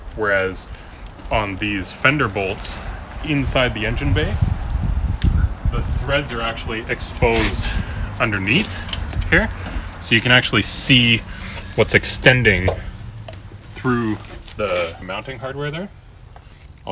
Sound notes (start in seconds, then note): none